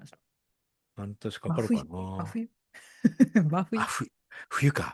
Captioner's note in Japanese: 笑い